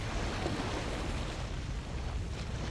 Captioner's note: splashing in ocean